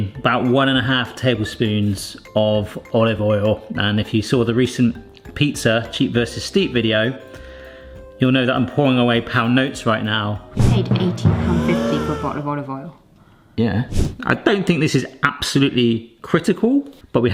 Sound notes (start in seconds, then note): 10.4 dramatic music; 11.5 horrified gasps